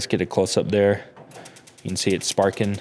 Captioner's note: sparks